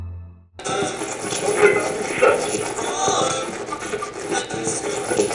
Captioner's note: radio channel changing